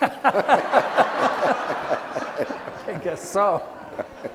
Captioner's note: laughing